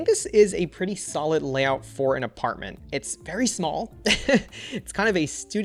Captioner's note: laughs